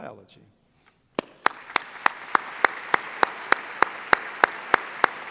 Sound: applause

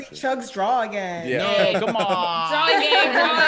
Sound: laugh

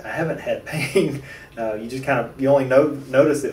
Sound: laughter

